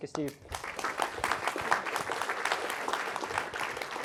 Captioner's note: applause